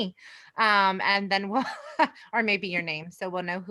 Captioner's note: chuckles